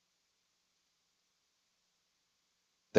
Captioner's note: none